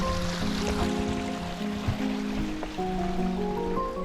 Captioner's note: water